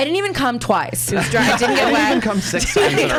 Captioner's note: laughs